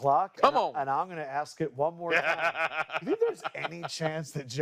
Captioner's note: laughter